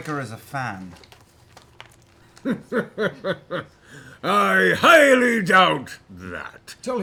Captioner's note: chuckles